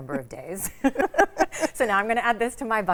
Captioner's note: laugh